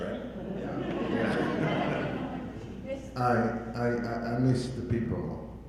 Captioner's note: audience laughing